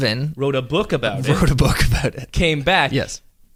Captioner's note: laughs